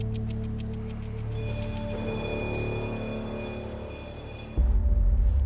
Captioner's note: beeping